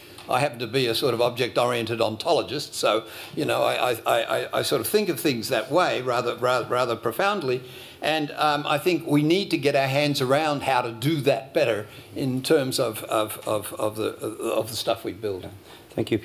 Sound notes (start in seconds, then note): none